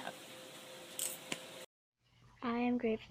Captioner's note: crunching